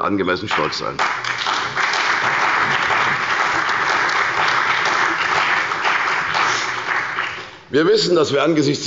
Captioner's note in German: Beifall bei der CDU und dem BÜNDNIS 90/DIE GRÜNEN